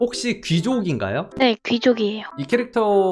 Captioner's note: voiceover